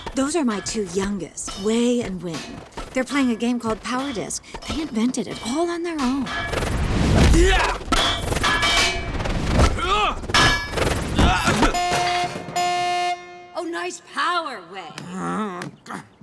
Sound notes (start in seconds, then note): 6.9 grunting; 11.1 grunting, beeping; 15.0 groaning